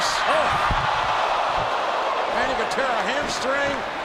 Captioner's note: audience groans